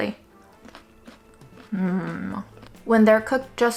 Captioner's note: peanuts crunching